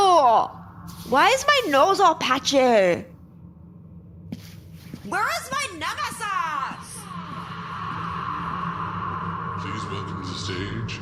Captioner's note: shouting into void